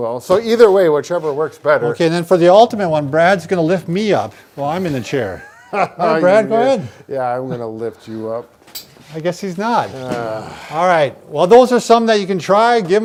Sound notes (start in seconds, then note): 5.0 laughing